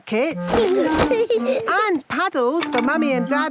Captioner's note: giggling